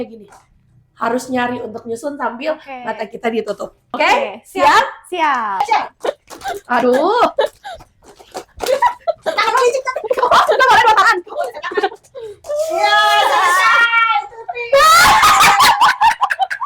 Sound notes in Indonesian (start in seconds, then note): 12.4 berteriak